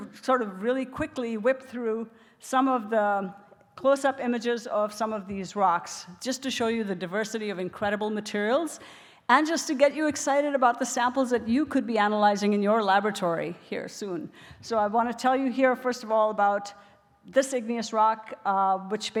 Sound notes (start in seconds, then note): none